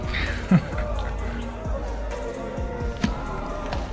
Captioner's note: laughing